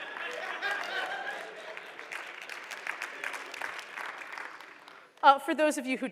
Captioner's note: applause